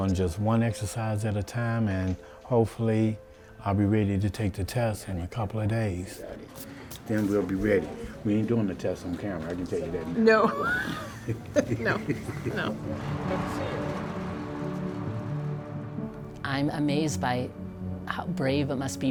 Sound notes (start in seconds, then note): 10.4 both laugh; 12.6 traffic noises